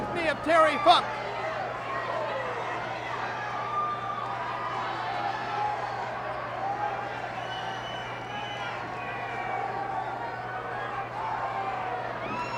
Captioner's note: applause